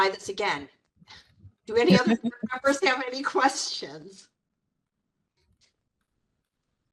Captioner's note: laughing